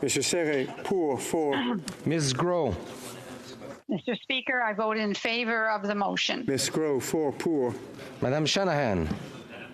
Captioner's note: speaking FRENCH